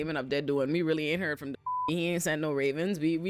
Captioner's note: beep